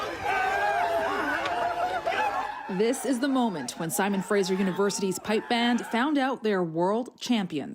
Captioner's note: cheering